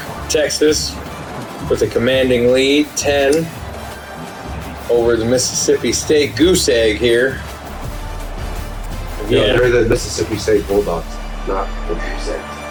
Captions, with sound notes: Texas with a commanding lead 10 over the Mississippi State goose egg here. [Crowd Noises] Mississippi State Bulldogs, not the goose eggs.